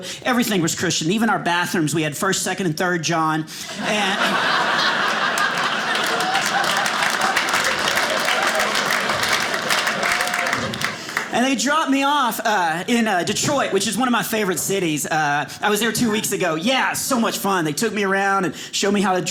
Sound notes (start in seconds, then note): 3.6 audience laughing; 7.4 audience applauding